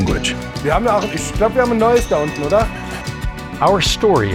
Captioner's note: speaking in German